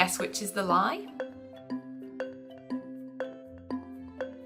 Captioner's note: timer beeping